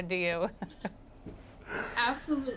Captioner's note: laughs